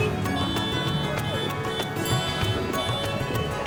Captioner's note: cars honking